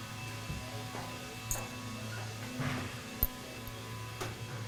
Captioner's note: machines whirring